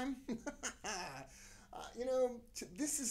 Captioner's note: laughing